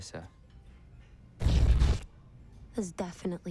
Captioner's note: crack